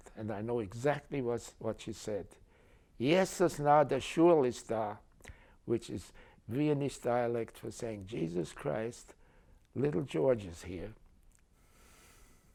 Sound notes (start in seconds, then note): 2.7 speaking german